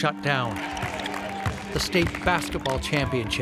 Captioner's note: spectators cheer and clap